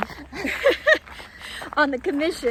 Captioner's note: laughs